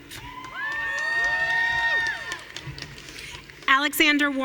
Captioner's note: audience cheering